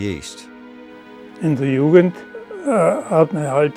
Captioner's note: non-english speech